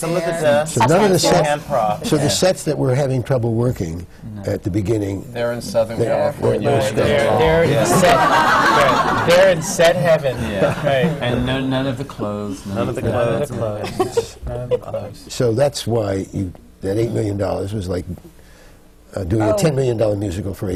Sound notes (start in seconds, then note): 7.8 laughter; 16.1 laughter from the panel